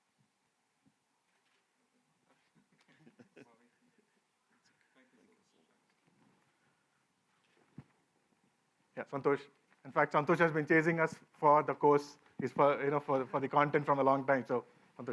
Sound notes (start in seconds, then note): 2.6 laughter